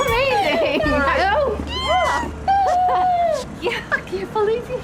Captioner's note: ellie squealing